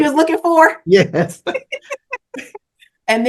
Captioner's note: laughter